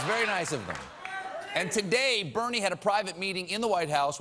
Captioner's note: applause